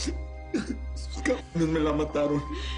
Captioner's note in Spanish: Sollozos